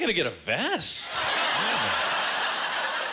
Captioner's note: laughter